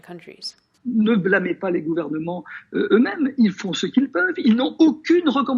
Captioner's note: man speaking a foreign language